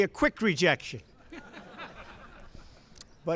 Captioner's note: laughter